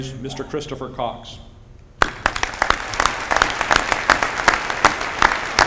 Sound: applause

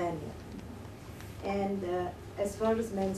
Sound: none

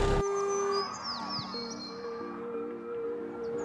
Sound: nature sounds

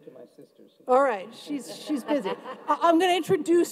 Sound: everyone laughs

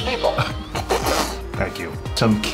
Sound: laughing

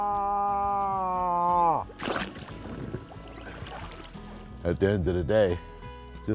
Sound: bellows

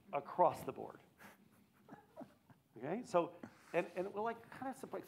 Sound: laughs

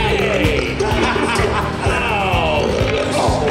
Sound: belching_laughing

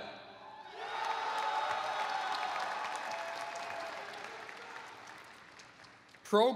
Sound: applause

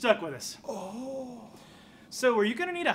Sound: Graak whimpers quietly

